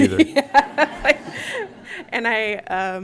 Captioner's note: laughter